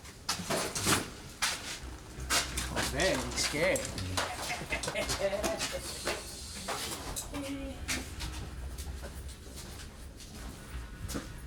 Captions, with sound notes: - Oh man, you were scared. (laughs) (ominous music)